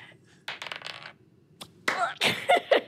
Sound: dice rolling; laughs

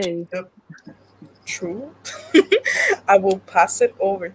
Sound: laughs

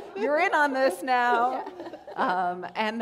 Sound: laughter

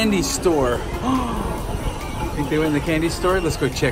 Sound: gasping

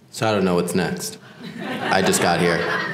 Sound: laugh

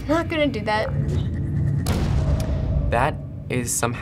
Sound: sharp buzzing; boom

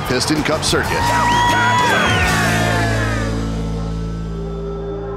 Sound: cheering

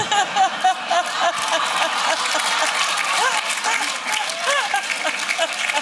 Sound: laughter

